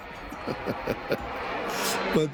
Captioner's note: laughing